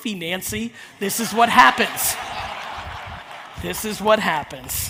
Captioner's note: audience laughs